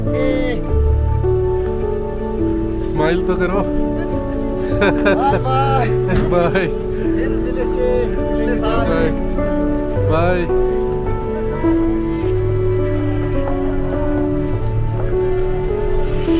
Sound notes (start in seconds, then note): 4.6 laughing; 9.1 speaking foreign language; 13.1 gentle music